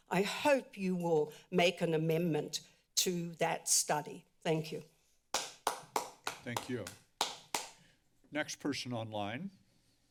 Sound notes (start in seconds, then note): 5.3 applause; 5.6 continues applause; 9.9 silence